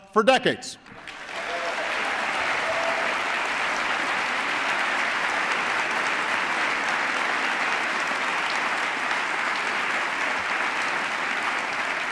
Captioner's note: applause